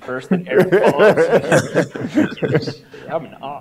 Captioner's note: laughter